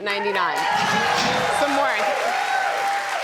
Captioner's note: laughs; audience cheers